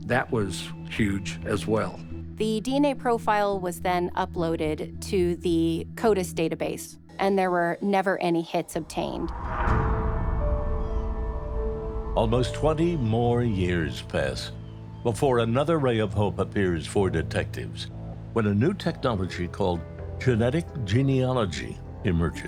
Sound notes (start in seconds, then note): 9.1 birds chirping; 9.1 pensive music